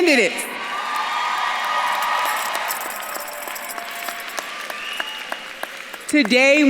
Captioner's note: audience claps and cheers; bells jingling